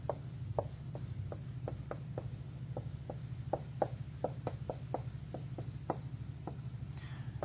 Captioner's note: writing on whiteboard